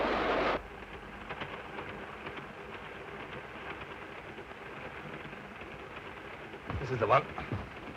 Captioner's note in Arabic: هدير القطار; صوت خشخشة القطار